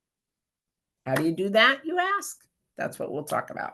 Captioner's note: claps hands